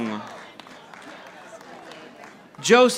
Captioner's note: audience applauding